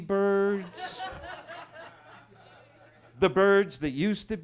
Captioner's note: attendees laughing